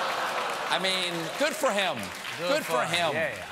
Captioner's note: applause